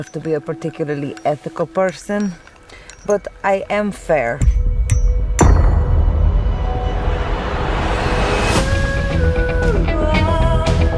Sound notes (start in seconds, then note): 4.3 reverberation builds